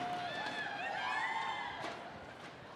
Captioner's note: cheers and applause